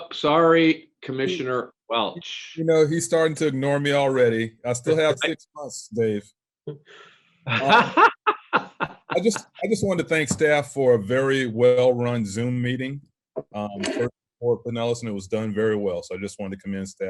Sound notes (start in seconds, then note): 3.8 laughter